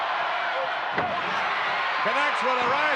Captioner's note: audience cheering; fist thuds